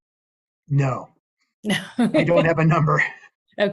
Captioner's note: laughs